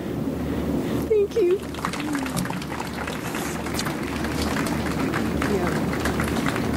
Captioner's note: audience applauds